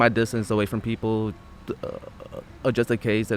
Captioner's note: stuttering